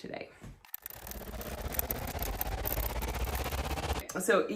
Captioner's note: audio fast forwarding